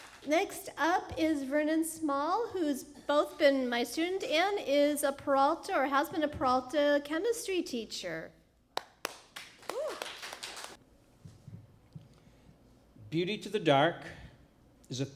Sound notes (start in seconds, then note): 0.0 applause; 8.8 applause